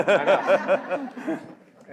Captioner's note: laughter